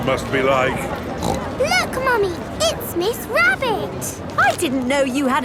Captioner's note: snorts